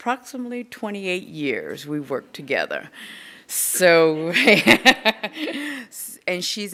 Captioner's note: laughing